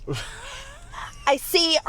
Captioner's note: laughs